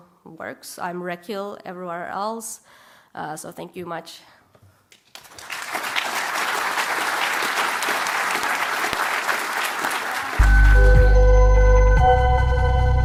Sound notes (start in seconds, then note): 4.1 applause